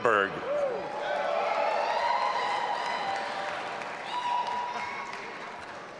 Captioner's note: audience applauding and cheering